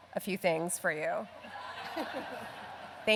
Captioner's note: laughter